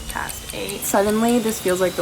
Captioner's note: clock ticking